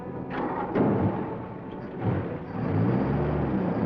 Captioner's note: car starting; car engine accelerates